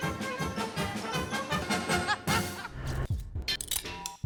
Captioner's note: laughing